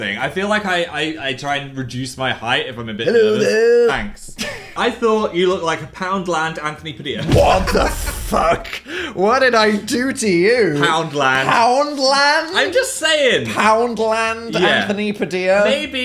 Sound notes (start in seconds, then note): 7.2 Phil laughs